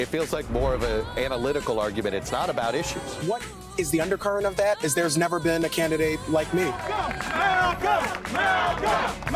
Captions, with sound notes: - It feels like more of an analytical argument. It's not about issues. - What is the undercurrent of that is there's never been a candidate like me. - [Crowd] Go! (crowd cheering and clapping) Malcolm, Malcolm!